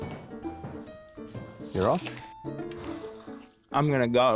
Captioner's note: bites into apple